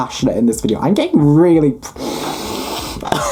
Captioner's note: inhaling